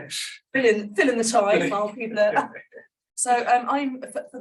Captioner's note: laughter